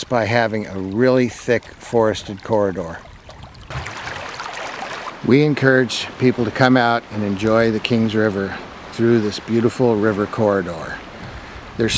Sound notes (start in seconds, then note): 4.0 water flowing